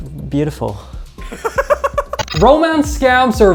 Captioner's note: laughs